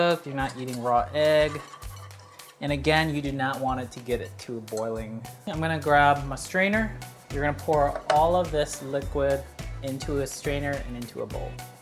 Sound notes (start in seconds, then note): none